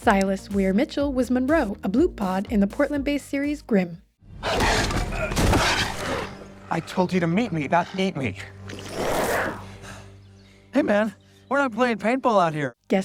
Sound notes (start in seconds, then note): 5.0 monster growls and a man cries out as he is tackled; 8.6 Monroe growls while he becomes human